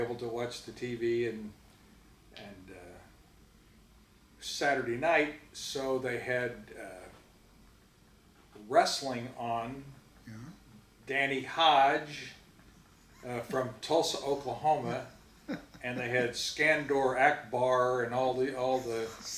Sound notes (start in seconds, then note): 15.9 giggling